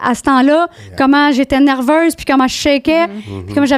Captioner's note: in french